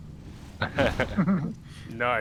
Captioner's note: laughing